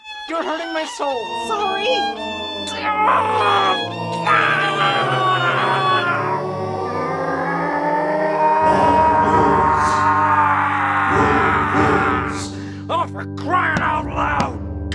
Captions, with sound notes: You're hurting my soul. Sorry. AEURGHH GAAAAHHHH--! [demonic choir] [deeper voice] --AAAAHHHHHHH!!! Oh, for crying out loud!